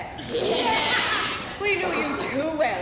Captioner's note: women voice agreement